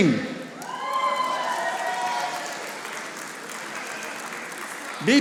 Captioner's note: audience applauding